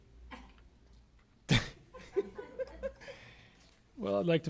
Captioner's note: laughter